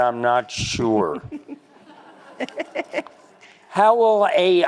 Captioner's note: crowd laughs